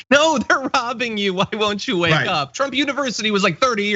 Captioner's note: laugh